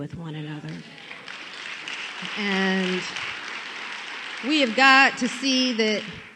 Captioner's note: applause